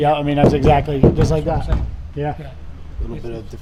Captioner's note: hitting panel